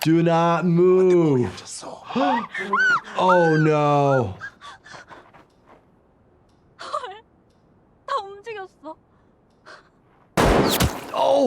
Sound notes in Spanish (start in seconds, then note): 1.0 Thanos hablando en coreano; 1.8 El doctor de urgencias jadea; 2.2 el jugador grita; 4.5 jugador gritando; 6.8 El jugador habla en coreano; 10.4 estallidos de armas